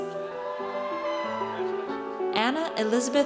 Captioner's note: audience cheers